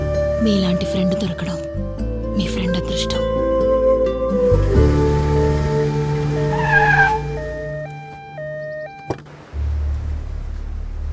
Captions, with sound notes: Your friend is fortunate to find a friend like you. [Brakes squeal]